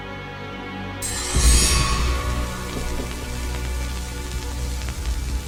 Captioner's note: electricity buzzing